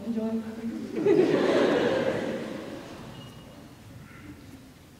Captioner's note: laughter